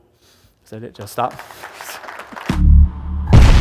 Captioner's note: applause